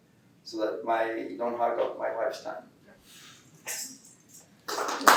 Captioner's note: clapping